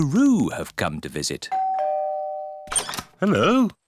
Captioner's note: doorbell rings